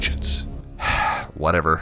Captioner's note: sigh